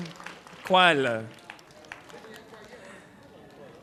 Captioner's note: foreign language